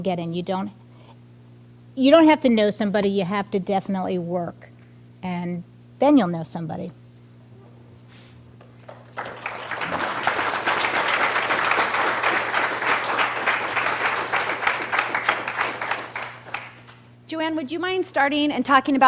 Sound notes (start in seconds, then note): 8.6 applause